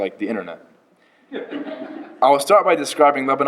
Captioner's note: laughter